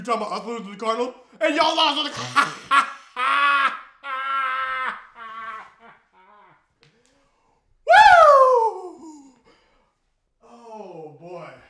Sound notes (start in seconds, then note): 2.2 guffaws